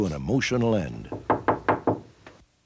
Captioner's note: knocking